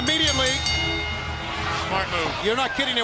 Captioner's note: bell ringing